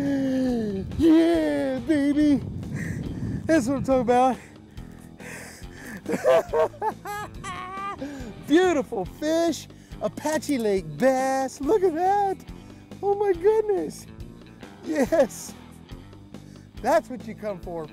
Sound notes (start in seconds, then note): 5.7 laughs